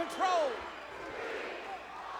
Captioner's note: crowd